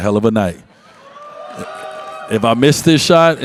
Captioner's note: audience cheers